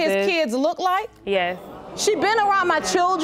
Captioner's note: audience gasps